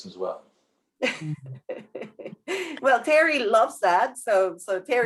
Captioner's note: laughter